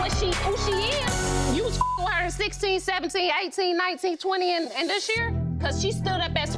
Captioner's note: beep